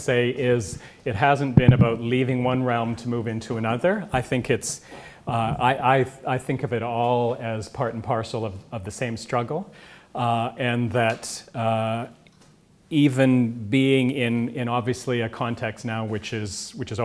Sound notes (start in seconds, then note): none